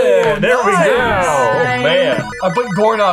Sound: bell ringing

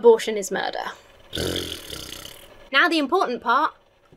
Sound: blows raspberry

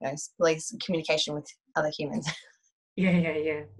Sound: chuckles

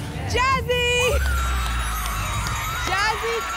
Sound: applause, cheering, screaming

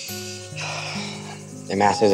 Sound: sighs

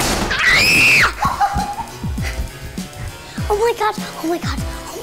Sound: screams

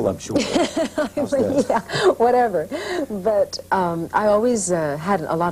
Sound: laughing

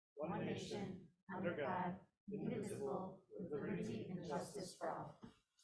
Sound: none

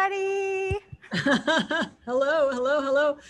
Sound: laughs

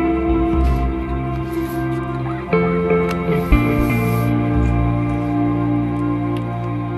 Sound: sound of pulling the sled

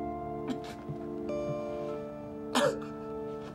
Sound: Hank sobs

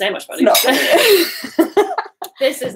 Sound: both laughing

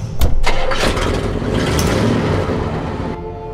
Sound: engine gets started

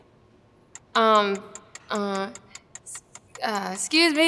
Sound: timer ticks

